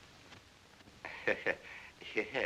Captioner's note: chuckles